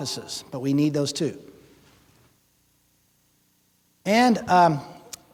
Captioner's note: none